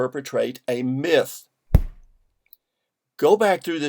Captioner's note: thud